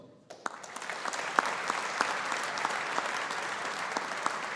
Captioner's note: audience applauding